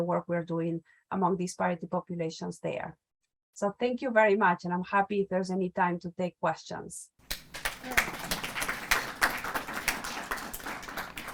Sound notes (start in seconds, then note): 7.2 applause